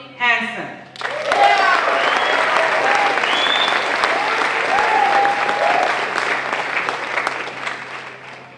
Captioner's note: applause